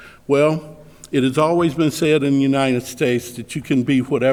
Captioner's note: none